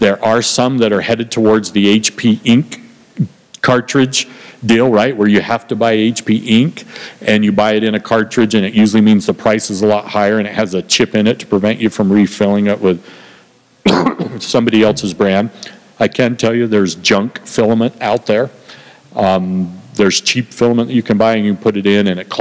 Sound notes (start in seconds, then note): 13.8 cough